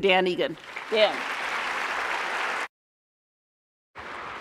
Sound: applause

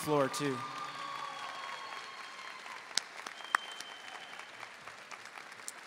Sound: audience cheering and applauding

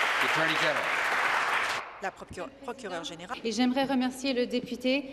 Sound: applause

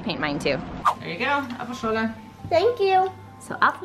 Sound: speaking in foreign language

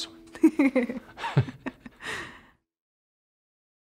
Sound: laughter

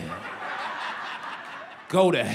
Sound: laughter

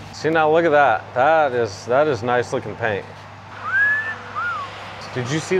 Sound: whistles

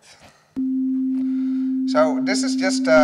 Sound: beep

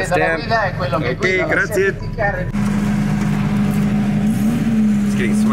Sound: speaking in foreign language

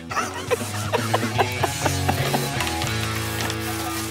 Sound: laughs

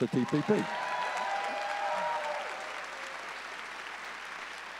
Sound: audience cheering

